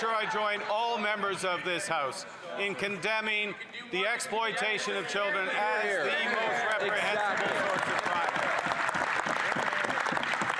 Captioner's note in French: voix de l'interprète